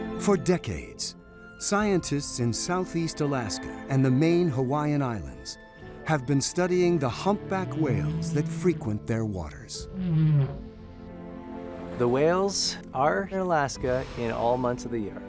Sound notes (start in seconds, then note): 9.8 whale calling